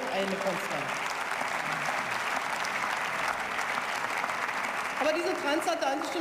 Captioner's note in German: Beifall